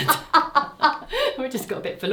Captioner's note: pair laughs